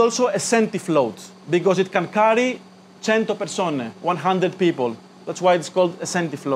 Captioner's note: in Italian